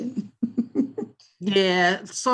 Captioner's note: chuckles